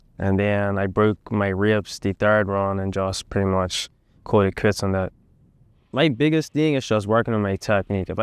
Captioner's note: none